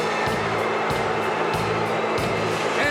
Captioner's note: audience cheering